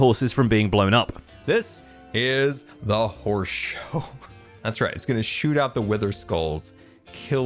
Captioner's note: laughs